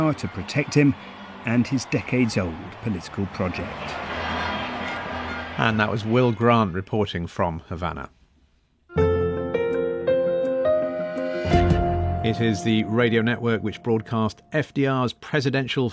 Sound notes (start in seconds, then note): 4.1 crowd cheering; 8.9 upbeat music